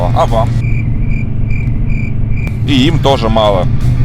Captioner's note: crickets chirping